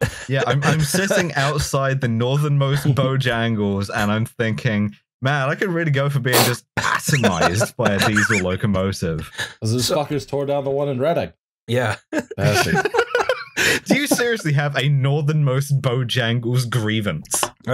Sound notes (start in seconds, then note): 11.9 laughs; 11.9 laughter